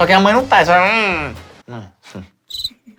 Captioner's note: som de dor e raiva